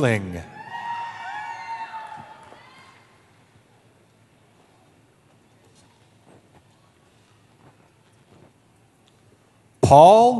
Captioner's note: cheering